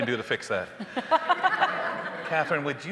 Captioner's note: hosts laughing; audience laughing